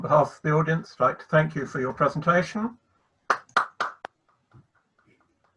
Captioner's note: claps